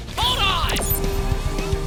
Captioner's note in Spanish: bip